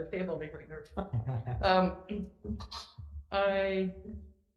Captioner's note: laughs